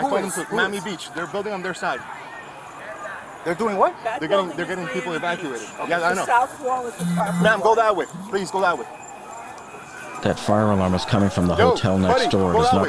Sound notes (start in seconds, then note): 8.0 sirens wailing